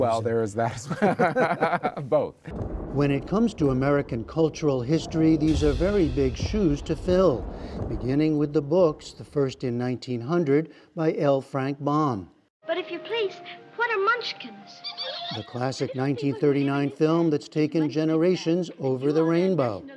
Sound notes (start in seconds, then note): 2.9 laughter